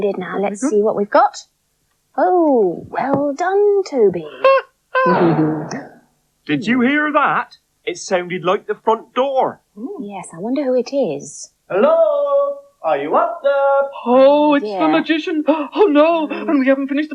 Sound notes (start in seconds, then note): 4.2 Toby Laughs; 4.9 door Slams In Distance